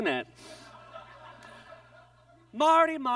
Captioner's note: audience laughs